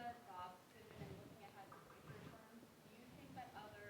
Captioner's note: student speaking faintly